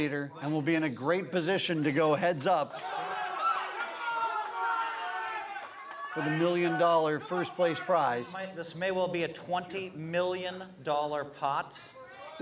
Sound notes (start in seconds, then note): 2.6 crowd cheering